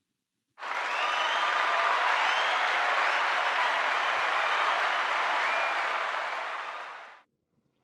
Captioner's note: cheers and Applause